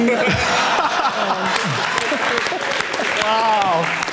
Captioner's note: audience laughing